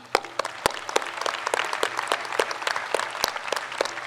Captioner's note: claps; crowd applauds